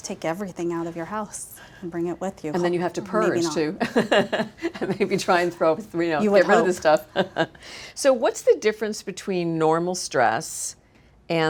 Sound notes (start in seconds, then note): 3.7 laughs